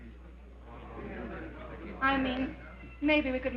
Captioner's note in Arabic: همهمة الحشد